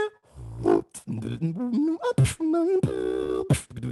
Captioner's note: beatboxing